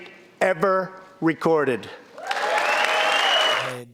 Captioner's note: cheering and applause